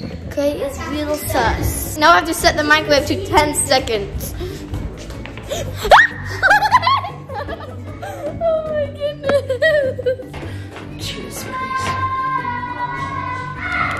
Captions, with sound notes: Gray is real sus. Now I just set the microwave to 10 seconds. (yelling) (laughing) Oh my goodness.